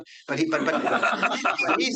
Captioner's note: group laughing